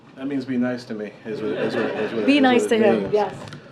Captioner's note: laughter